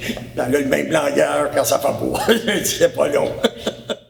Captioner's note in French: rire